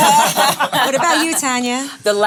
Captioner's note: laughs